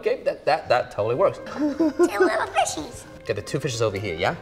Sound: crew person laughs

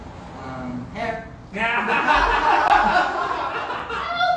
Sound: laughter

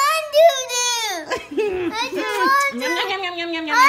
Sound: laughs; voiceover

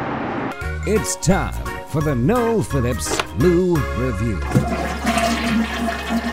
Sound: voiceover

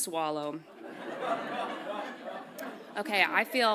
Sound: audience laughs

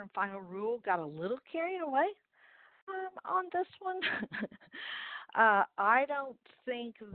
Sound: chuckles

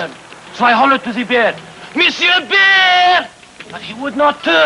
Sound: shouting

